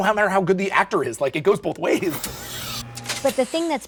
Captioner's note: electronic buzzing